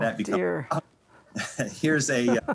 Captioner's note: both laughing